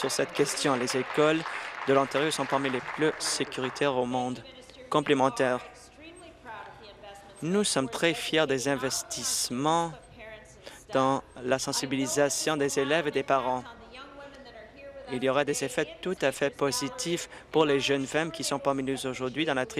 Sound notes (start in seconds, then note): 5.1 applause